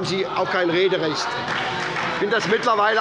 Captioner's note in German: Beifall bei der SPD und der FDP